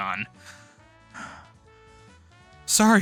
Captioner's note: heavy breathing